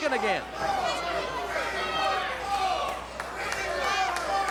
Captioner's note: audience chanting